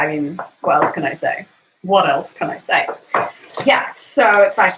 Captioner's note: none